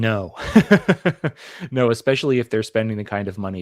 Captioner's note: laugh